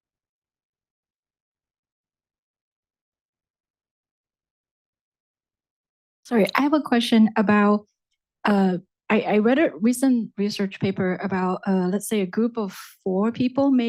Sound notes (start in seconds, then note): none